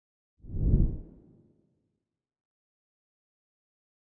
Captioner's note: whoosh